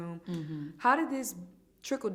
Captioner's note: hums in agreement